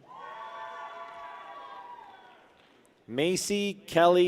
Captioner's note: people cheer